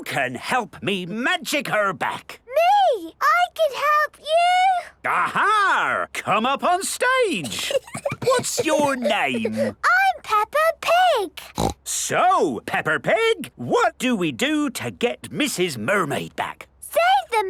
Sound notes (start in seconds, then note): 7.4 Peppa giggles; 11.4 snorts